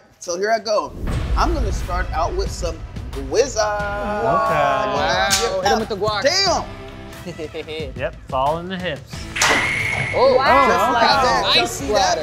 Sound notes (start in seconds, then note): 9.5 guacamole exploding